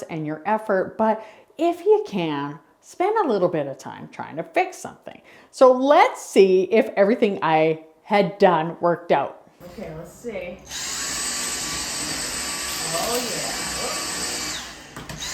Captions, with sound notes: and your effort, but if you can, spend a little bit a time trying to fix something. so let's see if everything I had done worked out. Okay, let's see. (vacuum humming) Oh yeah.